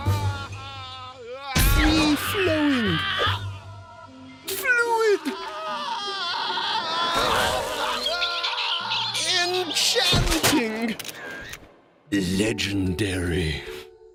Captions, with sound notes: FREE-FLOWING. FLUID. (screaming) (chicks screeching) ENCHANTING. LEGENDARY.